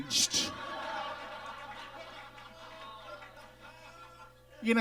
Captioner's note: audience laughs